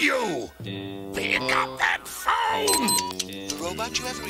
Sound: voicemail beeps

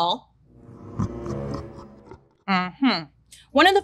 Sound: tense dramatic music; evilly laughing

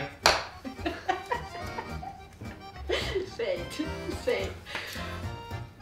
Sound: can't stop laughing

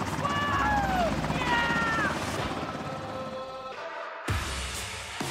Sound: man shouting

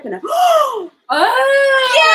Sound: gasps

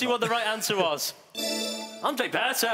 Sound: chiming

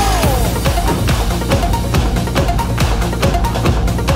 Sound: clapping

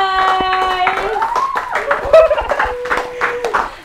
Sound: applauds

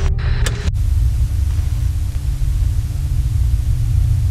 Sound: distorted music; static hisses

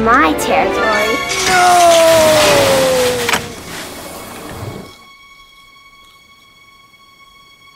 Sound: cage crashes

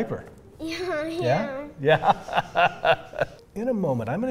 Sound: laughs

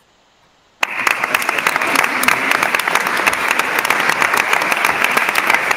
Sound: attendees applauding

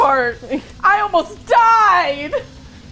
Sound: laughs; dramatically

